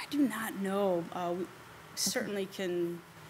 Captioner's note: none